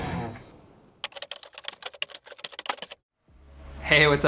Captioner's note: keyboard clicks